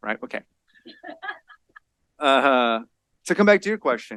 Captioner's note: laughter